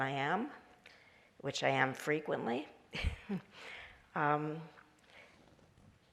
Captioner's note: chuckles